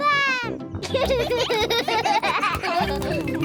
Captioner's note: giggling